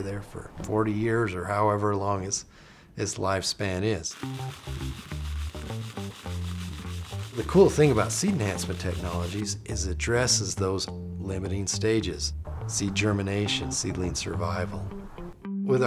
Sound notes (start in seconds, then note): 4.1 upbeat music; 6.1 seeds rattling